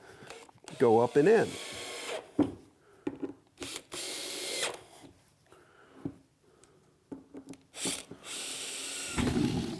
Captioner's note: drilling